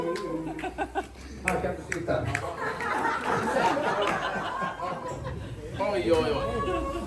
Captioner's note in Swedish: skratt